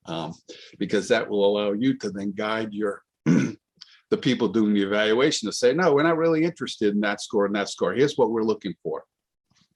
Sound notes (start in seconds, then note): 3.2 clears throat